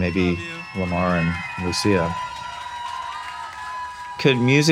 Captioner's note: audience applauding and cheering